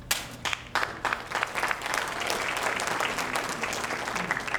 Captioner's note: audience applauding